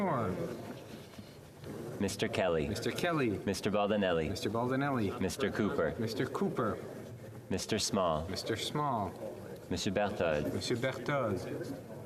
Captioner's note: calling of recorded vote